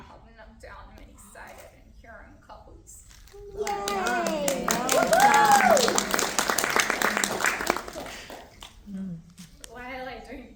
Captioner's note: applause